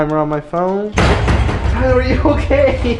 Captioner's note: bang